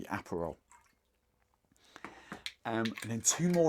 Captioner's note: liquid hitting glass